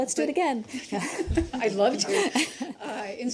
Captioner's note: laughter